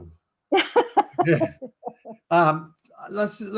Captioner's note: laugh